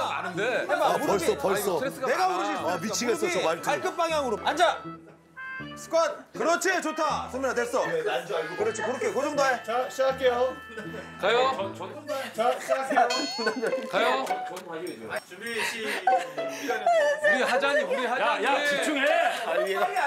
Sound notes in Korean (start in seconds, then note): 13.0 시끌시끌